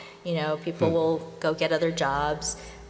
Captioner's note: none